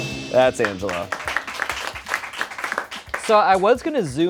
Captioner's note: crew applauds